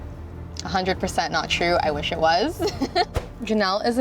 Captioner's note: laughs